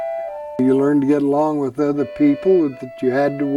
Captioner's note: voiceover